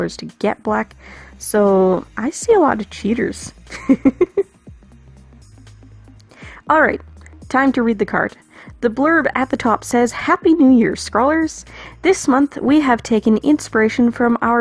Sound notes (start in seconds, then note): 3.7 laughs